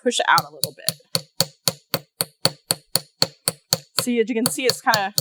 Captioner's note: light hammering